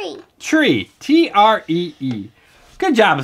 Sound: voiceover

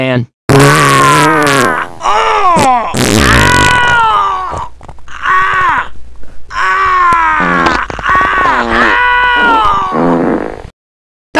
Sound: farts and yells

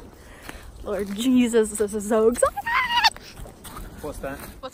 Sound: screams

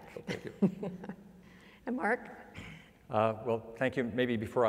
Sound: laugh

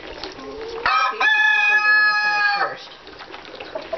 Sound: crowing

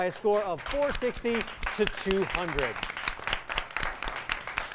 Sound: applause

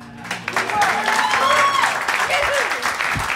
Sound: applause

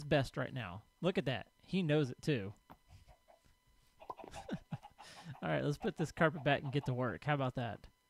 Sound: chickens clucking; laughs

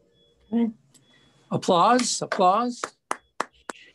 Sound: clapping

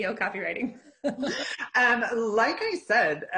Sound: laughing

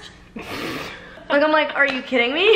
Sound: laughing

